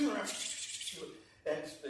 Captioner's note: makes slicing sounds